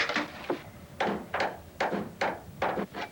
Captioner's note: hammering